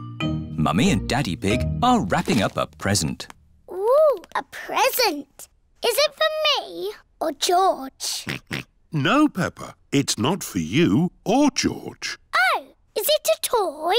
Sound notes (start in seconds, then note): 8.2 oinks